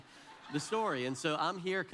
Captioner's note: audience laughs